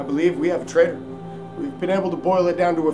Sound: none

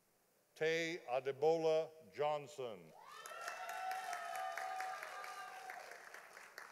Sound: audience applauding

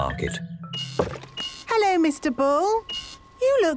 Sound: machine beeping

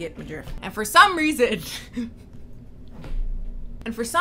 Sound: laughs

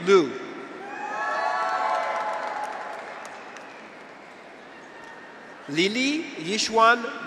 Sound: graduates cheer; audience applauds

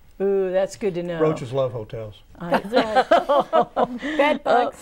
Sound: laughing

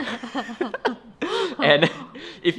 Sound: both laugh

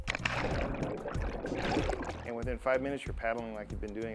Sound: water noise

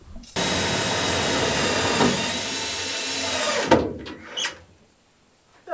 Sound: drilling

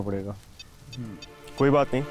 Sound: beeps on mobile

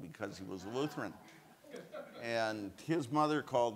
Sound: audience laughs

